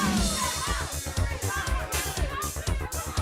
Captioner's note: crowd cheering